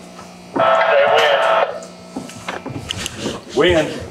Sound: radio chatter

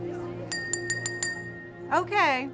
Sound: glass rings

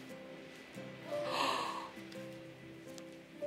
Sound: gasps

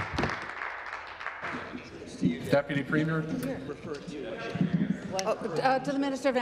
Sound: applause

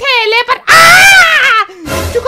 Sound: shouting in pain

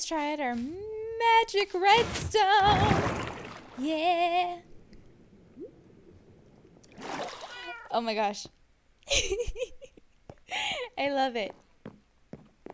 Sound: giggles

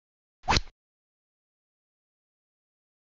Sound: rod sound

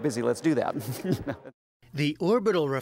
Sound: laughter

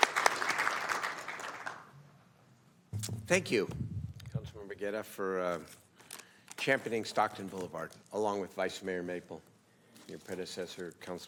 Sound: applauding

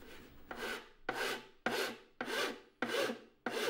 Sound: scraping

